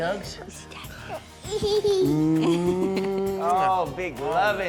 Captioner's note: laughing